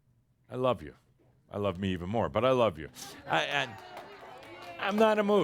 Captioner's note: audience says “Yay!” and some applause